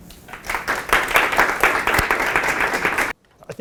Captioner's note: audience applauding